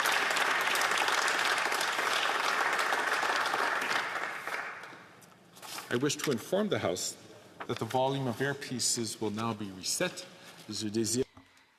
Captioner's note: applause